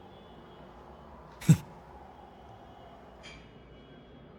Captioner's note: laugh